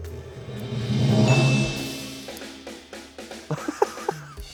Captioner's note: drum roll hisses; bell chimes